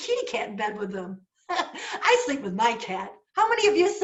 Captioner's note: laughter